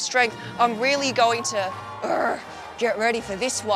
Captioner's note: growls